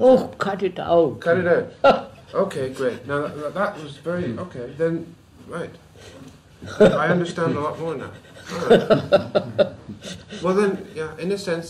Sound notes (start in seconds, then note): 1.2 laughs; 11.6 laughs